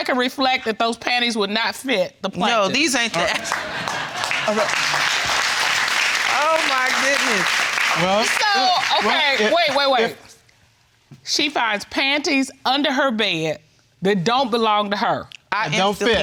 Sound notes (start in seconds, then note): 4.8 audience applauding